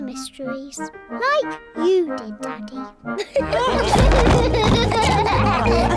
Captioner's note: all laugh